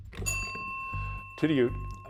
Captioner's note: bell ringing